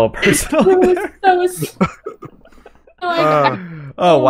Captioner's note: laughs